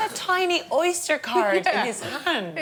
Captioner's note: laughter